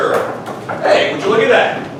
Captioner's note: knock knock